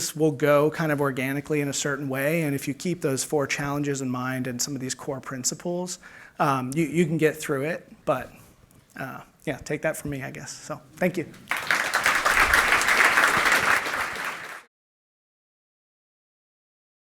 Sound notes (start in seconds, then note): 11.4 applause